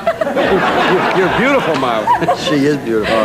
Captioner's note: everyone laughing